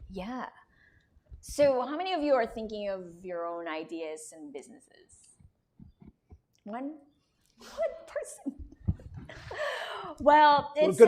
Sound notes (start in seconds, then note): 8.8 laughter